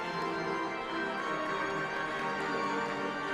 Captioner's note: applause